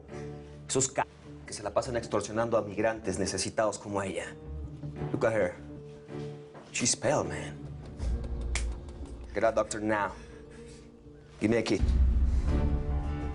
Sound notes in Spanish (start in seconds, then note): none